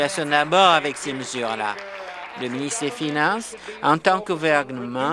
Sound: applause

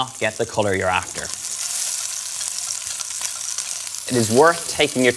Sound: lamb sizzling

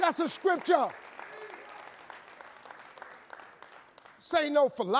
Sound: audience cheering

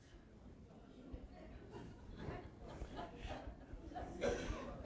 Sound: audience laughing

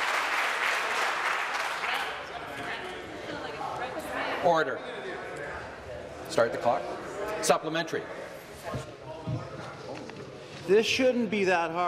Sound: some Applause

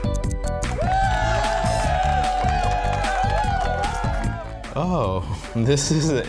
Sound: timer ticking; crowd cheering

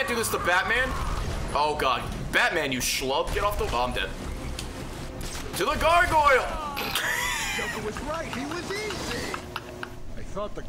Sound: laughs

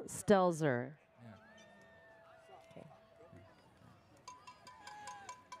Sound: audience cheers

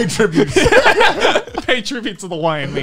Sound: everyone laughs

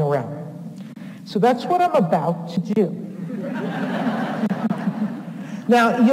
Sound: audience laughs

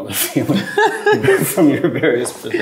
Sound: chuckles; laugh

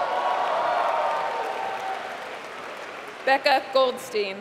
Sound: applause

